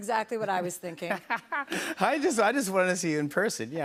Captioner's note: laughs